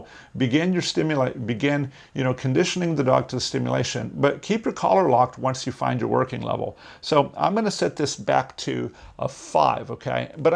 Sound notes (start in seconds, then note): none